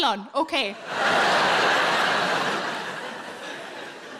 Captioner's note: audience laughs